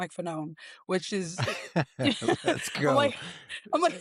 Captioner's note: laughing